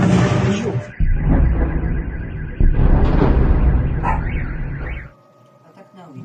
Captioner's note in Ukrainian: вибух; серія вибухів